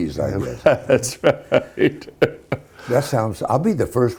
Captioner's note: laughing